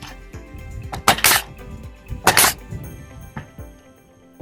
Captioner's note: nail gun thumping